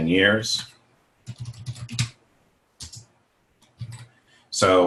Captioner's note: typing